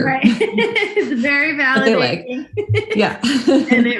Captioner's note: laughs